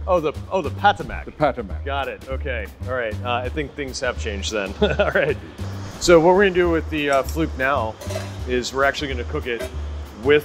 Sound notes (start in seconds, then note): 4.6 laughs